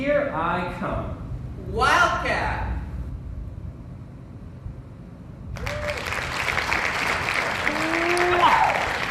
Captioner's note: applause